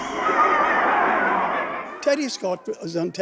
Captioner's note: audience laughing